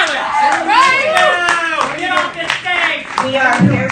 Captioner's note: speaking calmly; trans activists cheering and clapping